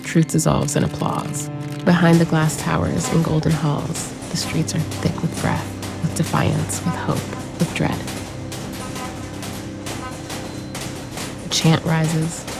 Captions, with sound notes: Truth dissolves in applause Behind the glass towers, and golden halls The streets are thick with breath, with defiance, with hope, with dread. [crowd noise and commotion] A chant rises.